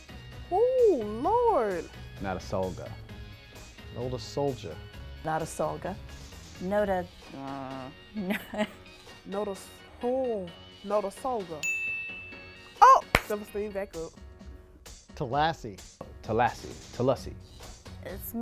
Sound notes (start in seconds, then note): 8.2 laughs; 11.6 bell chimes